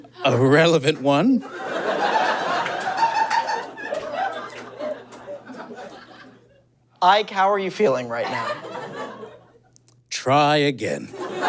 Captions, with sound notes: A relevant one. (audience giggles profusely) Ike, how are you feeling right now? Try again.